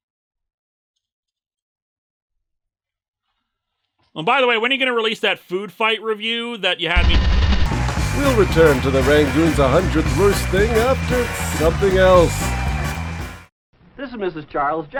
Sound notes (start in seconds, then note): 7.6 heavy static; 7.6 music, applause